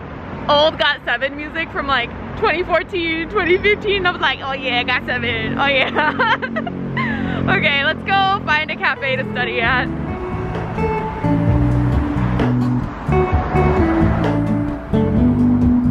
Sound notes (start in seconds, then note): 5.7 laughter; 10.3 upbeat music